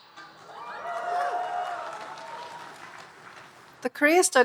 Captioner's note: audience cheering and applauding